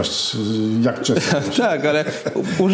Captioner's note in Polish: śmiech